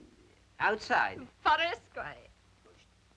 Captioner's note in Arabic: آنا تتحدث لغة أجنبية